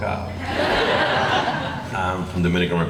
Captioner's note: laughing